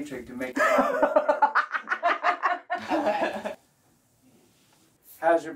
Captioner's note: laughing